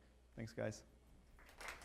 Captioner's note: applause